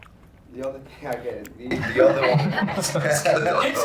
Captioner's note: laughing